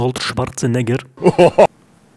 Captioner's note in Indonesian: Another Terminator Laugh